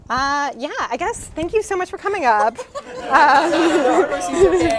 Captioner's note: laughter